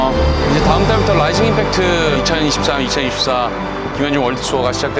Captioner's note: rising impact